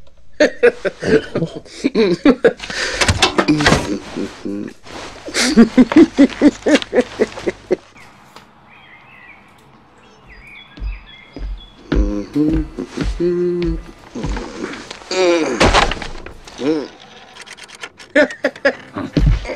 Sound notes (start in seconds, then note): 5.2 giggling